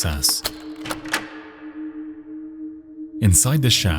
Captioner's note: lock clicks